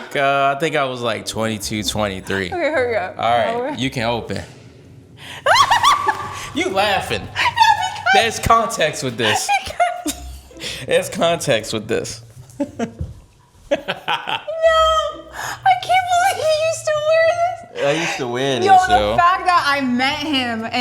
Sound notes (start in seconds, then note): 5.4 laughing; 13.7 laughing